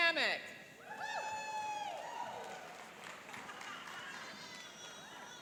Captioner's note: cheering and applauding